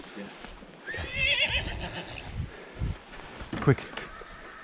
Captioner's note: horse neighing